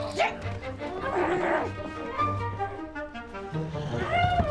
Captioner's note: vivien grunting